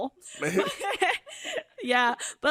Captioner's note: laughs